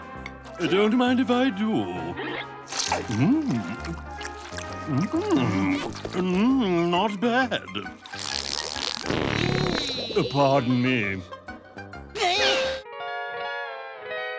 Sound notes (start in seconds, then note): 8.0 farting